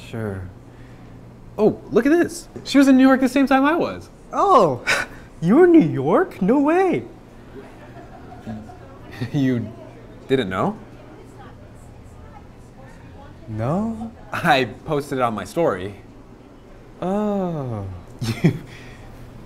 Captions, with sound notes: Sure Oh, look at this! She was in New York the same time I was! Oh, you were in New York? No way *sarcastic giggle* You didn't know? No . . . ? I uh, posted it on my story Oh . . .